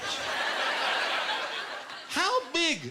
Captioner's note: laughter